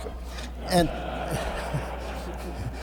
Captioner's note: laughter